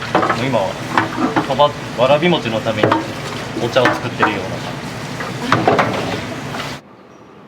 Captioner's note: laughs